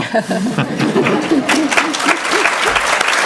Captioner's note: applause